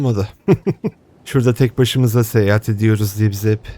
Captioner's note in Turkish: kahkaha